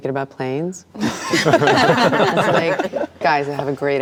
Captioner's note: laughter